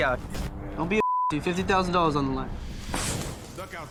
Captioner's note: beep